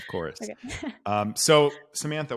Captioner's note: laughs